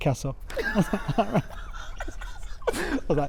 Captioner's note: laughter